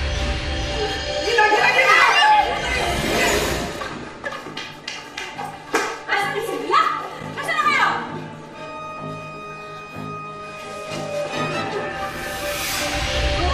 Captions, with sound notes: -[witch screams] -Mommy! Where are they? Where are they?